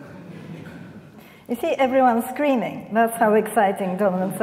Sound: audience laughing

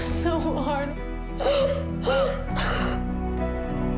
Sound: sobbing

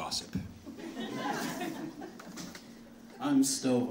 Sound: audience laughing

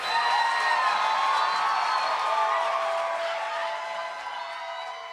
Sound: cheering

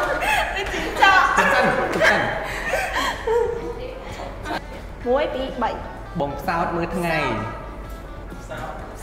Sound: laugh

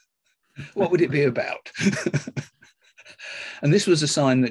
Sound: laughing

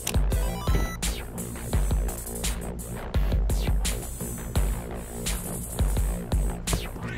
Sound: video game sounds

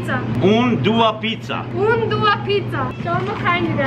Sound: speaking Albanian

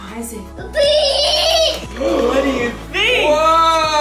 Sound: excited yelling

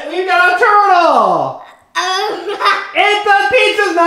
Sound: child laughs

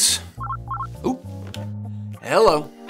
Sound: phone rings

